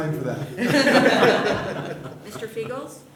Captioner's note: laughter